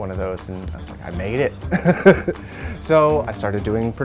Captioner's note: laughs